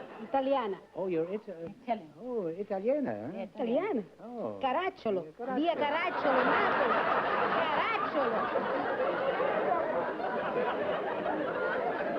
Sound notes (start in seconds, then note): 5.5 speaking italian; 8.9 laughter